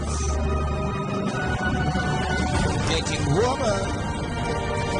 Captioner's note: none